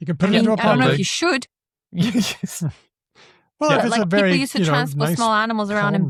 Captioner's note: chuckles